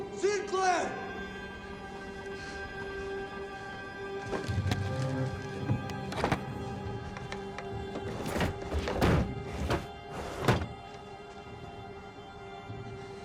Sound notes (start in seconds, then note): 2.4 objects clattering; 2.4 pensive music